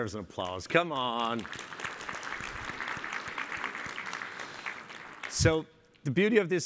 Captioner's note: applause